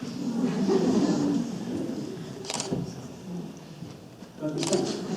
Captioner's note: audience laughs